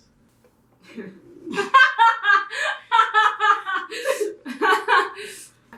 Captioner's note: explosive laughter